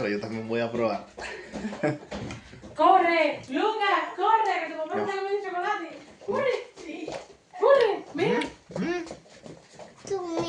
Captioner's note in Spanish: risas